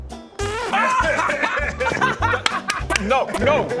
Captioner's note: easily amused laughter